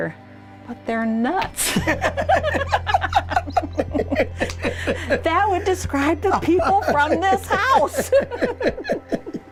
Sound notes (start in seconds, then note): 1.6 laughter